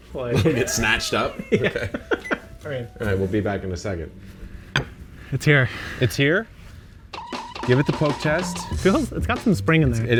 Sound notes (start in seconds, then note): 0.3 laughing; 4.7 plate clinking; 7.3 springs bouncing